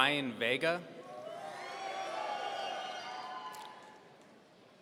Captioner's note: audience cheering